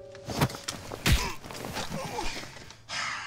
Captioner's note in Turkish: Vurma sesi